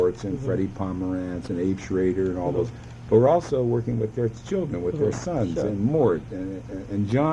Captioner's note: laughs